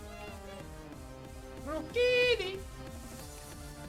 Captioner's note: Pokemon cry